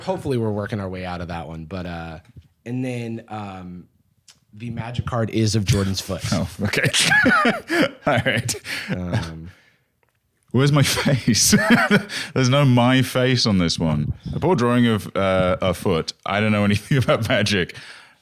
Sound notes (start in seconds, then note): 5.6 laughs; 10.8 laughs